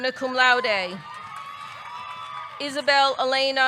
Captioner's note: audience cheering; audience clapping